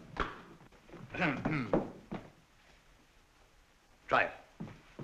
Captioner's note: clearing throat